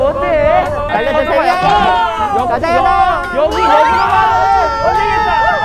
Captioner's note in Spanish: Áspero y entrecortado